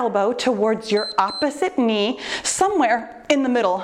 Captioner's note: timer beeps